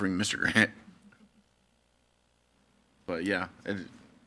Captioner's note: laughs